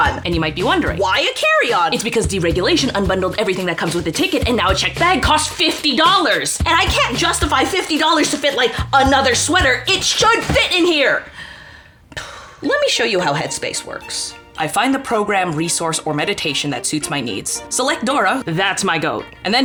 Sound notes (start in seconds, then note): 12.2 sighs